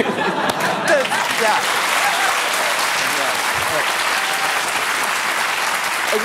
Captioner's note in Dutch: applaus